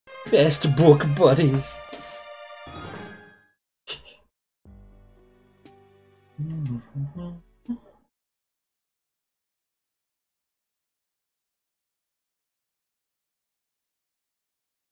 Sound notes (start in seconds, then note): 0.2 friendship fanfare; 3.8 laughs softly; 6.3 hums along